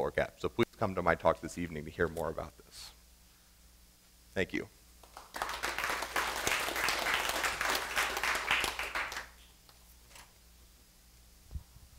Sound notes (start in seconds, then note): 5.0 applause